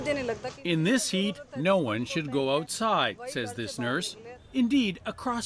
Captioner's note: speaking alternate language